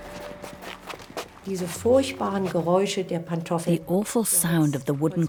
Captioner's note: speaks in foreign language